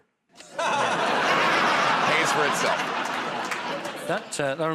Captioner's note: laughter